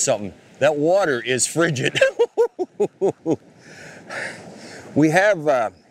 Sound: chuckling

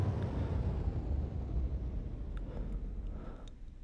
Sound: sound of ventilation shutting down

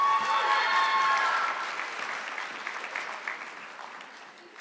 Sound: audience clapping

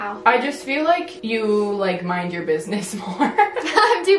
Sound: both laugh

